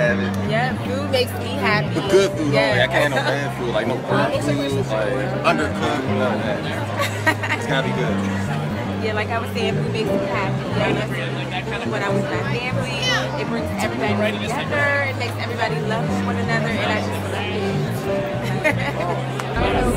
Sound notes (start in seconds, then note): 6.7 chuckles